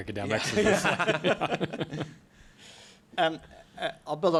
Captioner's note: laughter